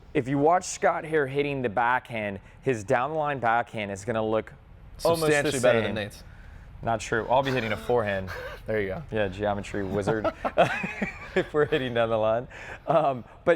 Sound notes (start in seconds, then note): 9.5 both men laughing; 9.5 laughing